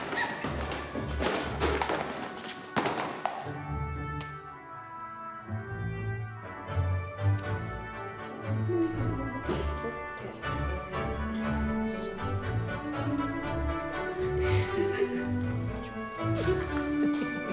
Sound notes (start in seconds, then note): 0.0 books clattering; 8.6 Alex humming; 14.5 friends laughing